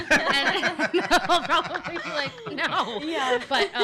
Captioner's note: laughs